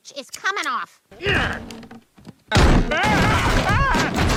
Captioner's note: Peter grunts